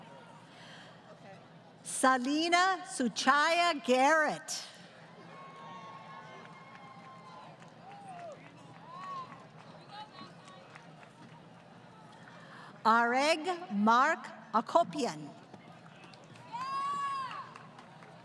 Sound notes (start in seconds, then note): 5.2 crowd Cheering; 16.0 crowd Cheering